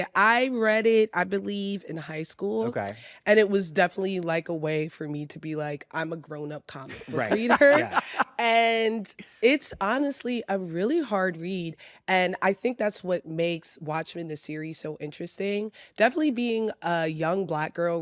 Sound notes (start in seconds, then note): 6.9 laughs